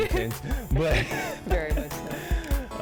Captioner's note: laughs